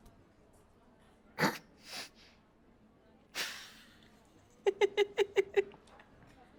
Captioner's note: laughs